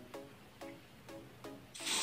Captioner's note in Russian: Пшшшш